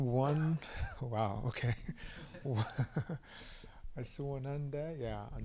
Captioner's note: laughs